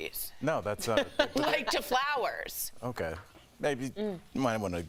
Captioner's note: laughter